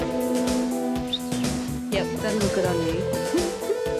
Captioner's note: whistles